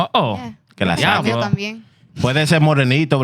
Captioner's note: speaking In Foreign Language